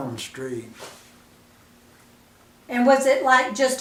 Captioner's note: silence